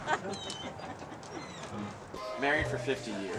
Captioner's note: grandmother laughs